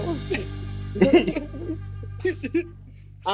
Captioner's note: both laughing